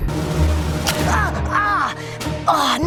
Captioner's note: dramatic music; cries out in pain